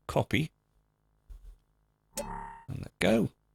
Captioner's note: sound effect